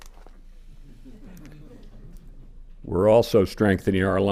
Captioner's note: scattered laughter